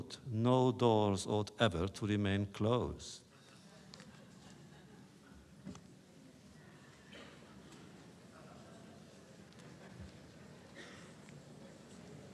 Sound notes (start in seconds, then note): 4.0 laughter